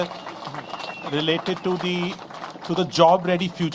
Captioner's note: applause